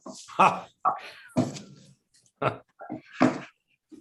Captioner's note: laughs